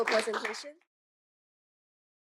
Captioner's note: applause